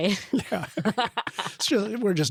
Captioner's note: laughs